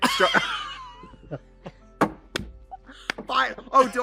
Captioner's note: Trixie and Katya laugh